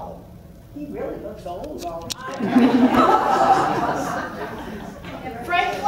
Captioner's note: laughs